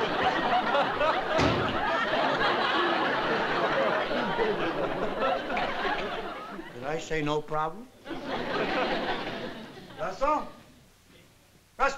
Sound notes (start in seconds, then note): 1.1 door slams